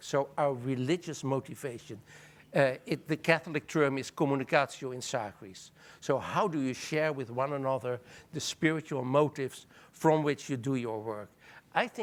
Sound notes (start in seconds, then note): 3.8 speaking in foreign language